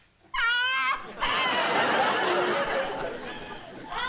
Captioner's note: crying